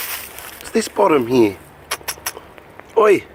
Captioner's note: kisses